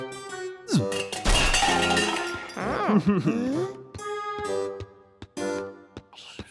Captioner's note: harpsichord music; clanging